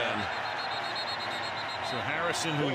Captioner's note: whistle blowing